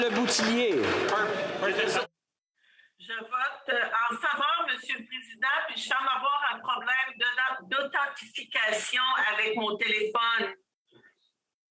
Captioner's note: speaking French